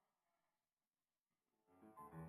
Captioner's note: speaking French